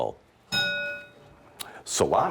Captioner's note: ding